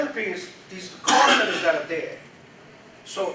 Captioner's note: audience member coughs loudly